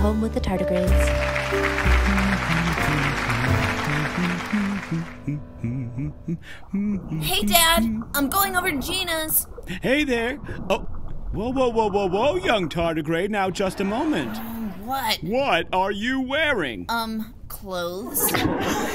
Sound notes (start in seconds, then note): 0.6 calming piano; 0.7 studio audience clapping; 3.0 humming; 13.7 studio audience laughing; 18.2 studio audience laughing; 18.7 dad tardigrade chuckles